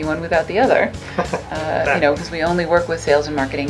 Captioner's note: laughing